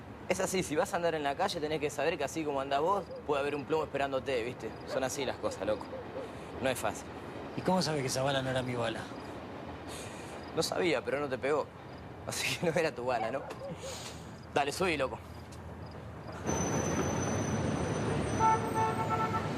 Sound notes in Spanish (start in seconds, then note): 13.0 ríe